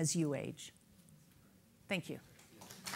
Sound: clapping

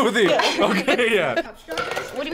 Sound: laughs

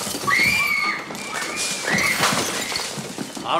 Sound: crashing; screaming

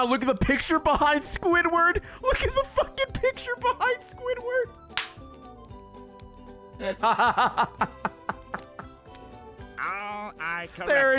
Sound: laughs

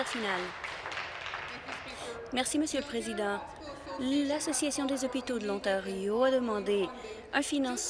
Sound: applause

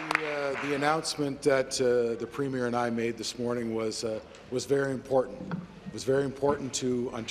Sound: applause

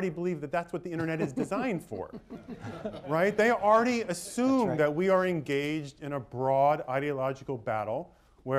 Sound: laughter

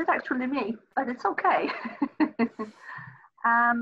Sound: laughs

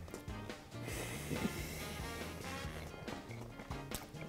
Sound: chewing; exhales

